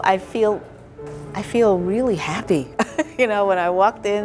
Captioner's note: chuckles